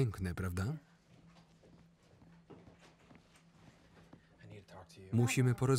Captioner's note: footsteps approaching